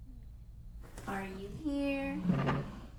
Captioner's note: chair rattles